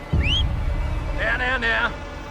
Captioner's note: whistles